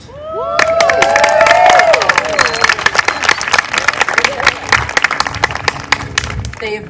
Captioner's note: applause